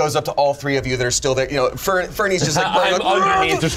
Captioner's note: yells